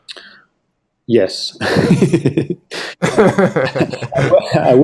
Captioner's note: laughing